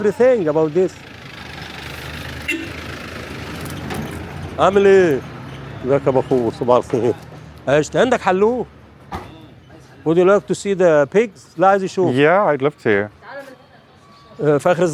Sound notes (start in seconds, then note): 0.0 background street noise